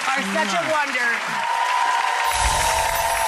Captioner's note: audience cheers; chiming music